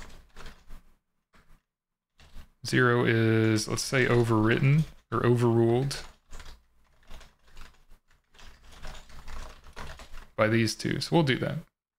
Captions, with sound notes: zero is, let's say overwritten or overruled. (paper rustling) By these two, so we'll do that.